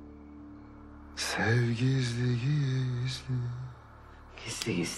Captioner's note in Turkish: Türküyü mırıldanıyor